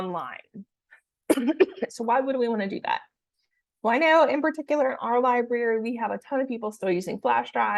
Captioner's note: coughs